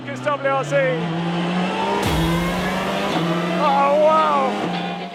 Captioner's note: engine rasping; upbeat music